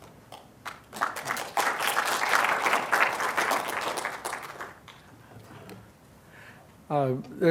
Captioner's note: applause